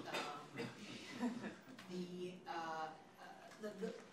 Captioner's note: audience laughing